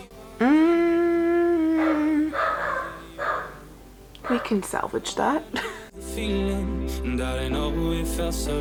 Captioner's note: humming